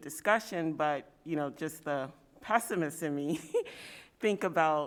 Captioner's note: chuckle